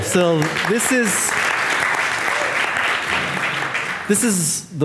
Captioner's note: audience applauding